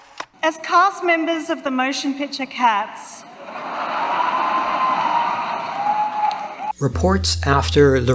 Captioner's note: laughter